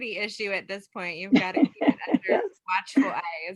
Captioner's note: gentle laugh drowns out speaker